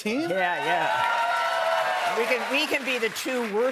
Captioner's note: cheers and applause